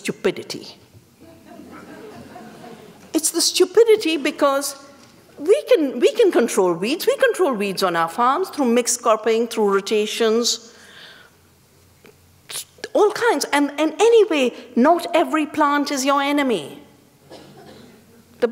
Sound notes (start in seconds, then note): 1.2 laughter